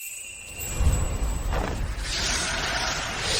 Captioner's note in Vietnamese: chuông